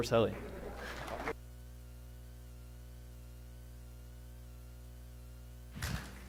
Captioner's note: applause